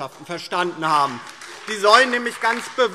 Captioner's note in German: Beifall DIE LINKE und SPD